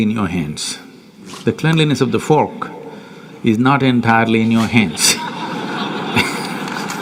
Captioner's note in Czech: smích/aplaus